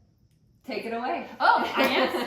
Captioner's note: laughs